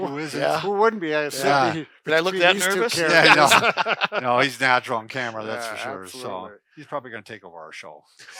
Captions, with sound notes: Who isn't? - Who wouldn't be with these two characters? - Did I look that nervous? (laughter) - No, he's natural on camera, that's for sure. - Absolutely. - He's probably gonna take over our show.